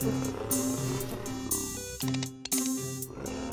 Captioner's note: deep growling